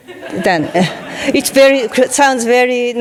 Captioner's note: audience laughing